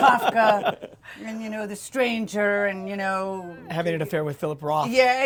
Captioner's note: laughter